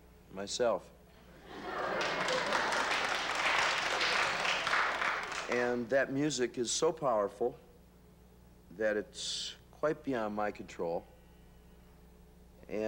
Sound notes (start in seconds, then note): 5.1 applause